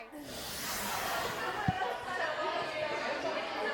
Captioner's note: chatter